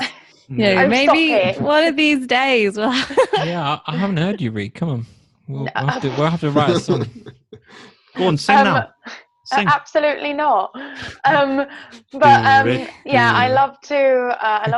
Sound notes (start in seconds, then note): 2.8 laughs; 10.8 laughs